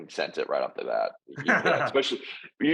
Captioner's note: laughing